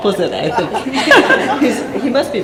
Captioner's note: laughter